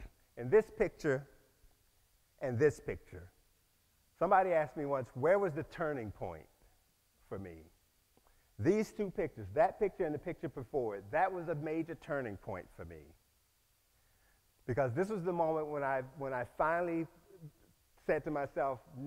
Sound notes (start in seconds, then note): none